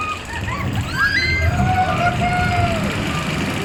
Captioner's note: people scream